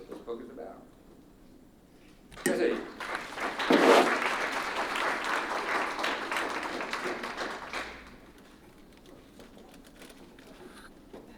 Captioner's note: applause